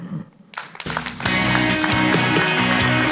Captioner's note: audience applauds; upbeat music